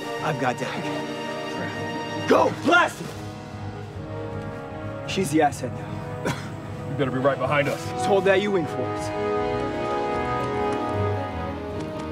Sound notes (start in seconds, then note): 6.1 coughs